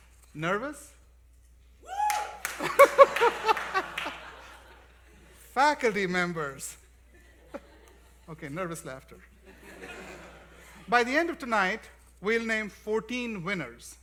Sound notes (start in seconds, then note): 1.8 cheering and Applause; 9.3 laughter